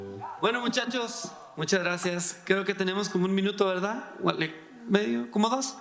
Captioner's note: speaking in foreign language